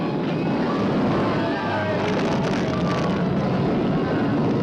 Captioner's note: all screaming